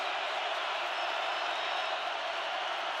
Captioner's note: crowd cheering